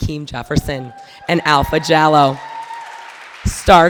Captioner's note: audience cheering